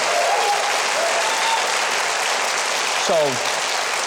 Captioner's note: audience applauds